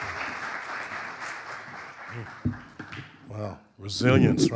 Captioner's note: audience applauding